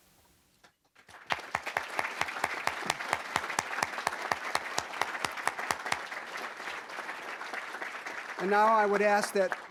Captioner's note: applause